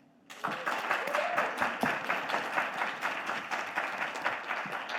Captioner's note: audience applauding